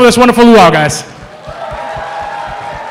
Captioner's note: cheering